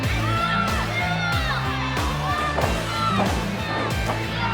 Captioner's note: crowd sounds